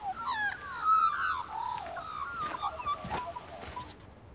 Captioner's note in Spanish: pájaros trinando